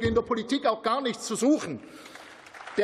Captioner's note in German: Beifall